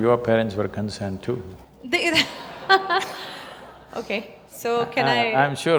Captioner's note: laughter